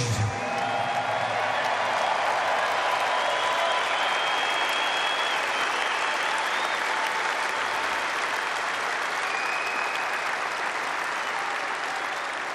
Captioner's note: applause